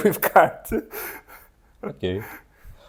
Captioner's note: laughs